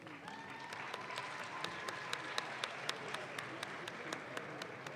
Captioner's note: audience claps